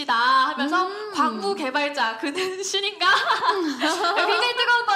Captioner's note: laughter